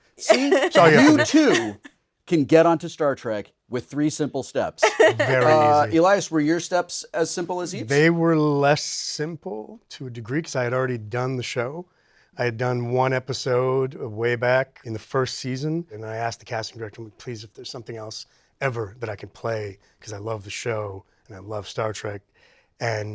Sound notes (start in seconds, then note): 4.8 giggling